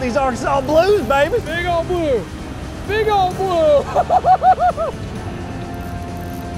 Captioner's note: laughs